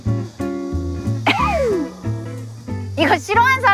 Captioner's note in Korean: 헛웃음